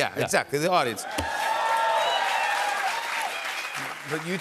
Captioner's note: cheers and applause